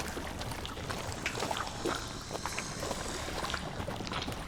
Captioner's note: faint hissing